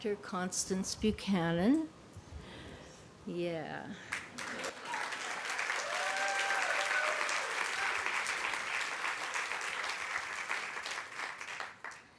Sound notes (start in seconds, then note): 4.1 applause